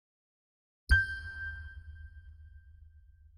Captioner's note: ding